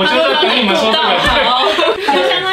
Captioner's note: Laughing